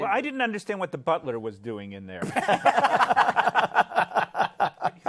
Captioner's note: laughter